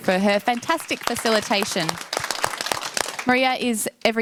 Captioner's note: audience applauds